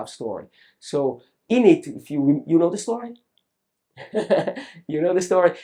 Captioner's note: laughs